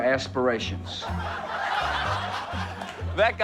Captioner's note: audience laughing